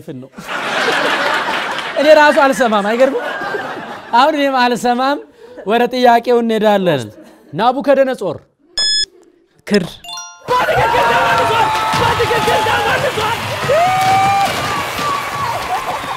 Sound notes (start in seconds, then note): 0.3 laughter; 10.5 scream and applause; 14.7 applause and scream